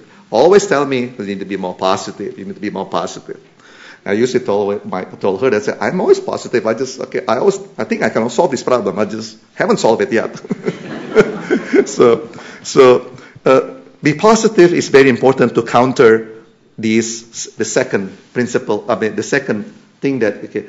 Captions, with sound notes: always telling me that you need to be more positive. I usually told her that, "I'm always positive. I just--I was-- I think I can solve this problem. I just haven't solved it yet." [Laughter] Being positive is very important to counter these--the second principle--I mean, the second thing that--